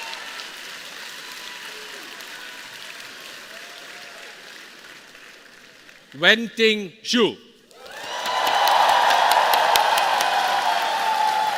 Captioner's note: cheering and applauding